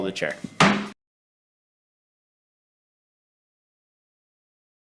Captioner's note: gavel slams